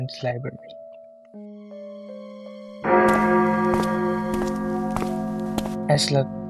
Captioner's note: the sound of walking